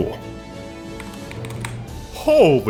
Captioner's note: typing